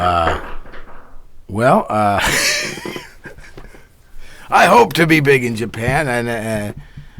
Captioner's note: laughs